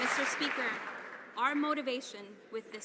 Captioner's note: some Applause